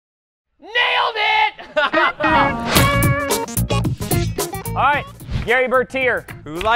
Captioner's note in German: lacht